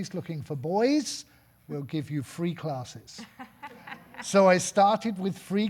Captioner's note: audience laughing